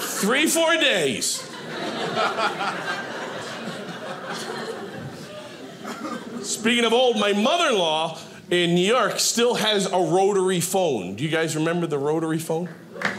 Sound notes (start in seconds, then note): 1.2 audience laughing